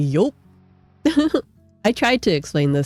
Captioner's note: laughs